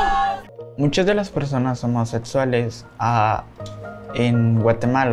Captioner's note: speaking Spanish